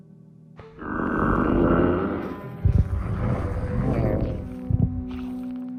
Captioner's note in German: knurren